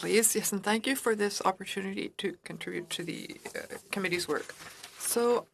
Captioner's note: speaking French